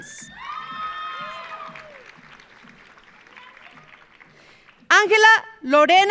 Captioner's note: audience cheering; audience applauding